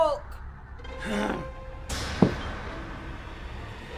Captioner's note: Bill grunts